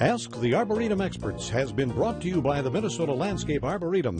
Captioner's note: voiceover